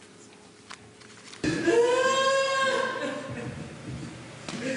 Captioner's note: wailing